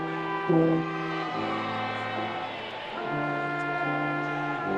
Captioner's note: attendees cheering